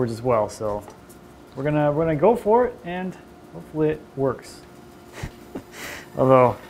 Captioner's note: laughs